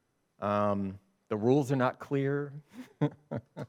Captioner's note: chuckles